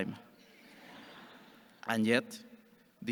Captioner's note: audience chuckles